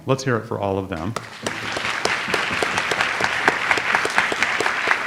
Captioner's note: audience applauds